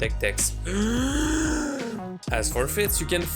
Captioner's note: breath in loudly